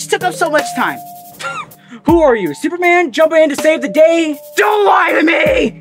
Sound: scoff

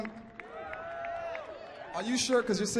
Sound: cheering

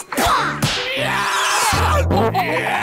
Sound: screaming; farting

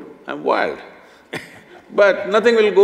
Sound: laughs

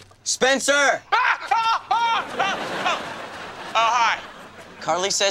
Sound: screaming

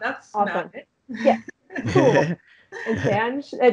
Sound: chuckling

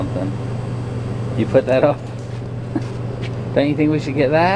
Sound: laughs

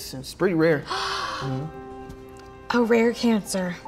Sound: gasps

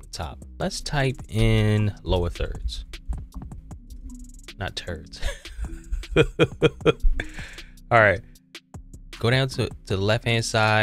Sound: laughing

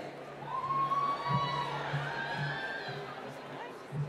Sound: cheering

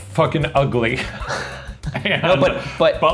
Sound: laughing

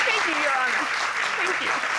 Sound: audience applauding

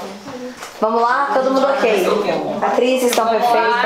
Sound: indistinct chatter

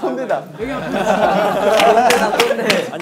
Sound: argh

